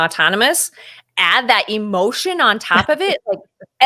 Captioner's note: laughing